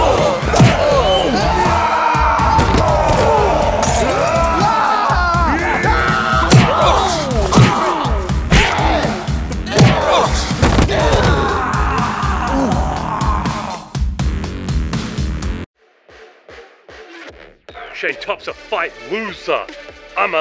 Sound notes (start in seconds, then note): 1.5 roaring; 2.5 thudding; 9.6 groaning; 10.8 screaming